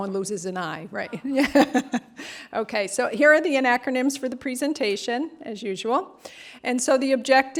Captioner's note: laughter